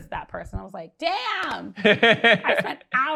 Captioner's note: laughs